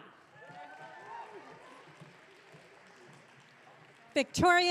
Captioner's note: audience cheering